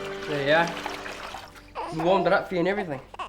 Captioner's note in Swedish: vattenstänk